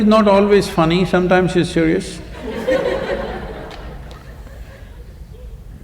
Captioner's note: laughter